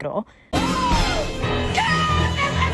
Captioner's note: dramatic gasp